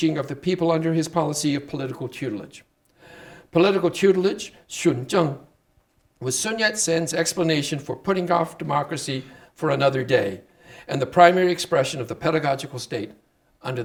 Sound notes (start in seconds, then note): 4.9 speaking Chinese